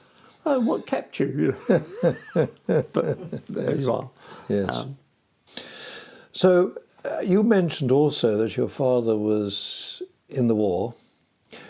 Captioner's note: laughing